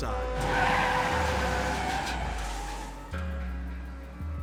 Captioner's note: tires screeching